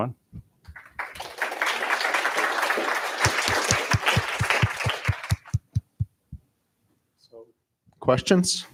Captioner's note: applause